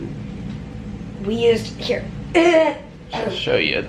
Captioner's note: clears throat